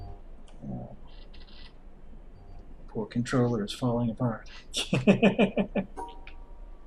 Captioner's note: chuckles